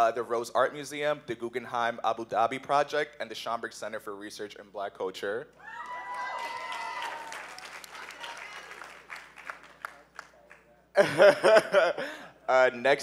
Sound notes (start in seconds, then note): 5.6 cheers; 5.8 applause